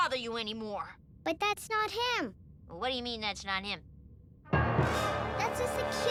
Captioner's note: none